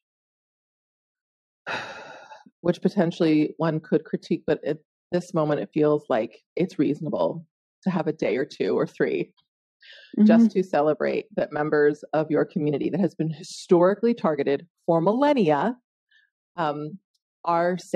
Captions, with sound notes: (sighing) which potentially one could critique. But at this moment it feels like it's reasonable to have a day or two or three just to celebrate that members of your community that has been historically targeted for millennia are safe,